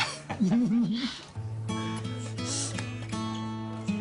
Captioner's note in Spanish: Risas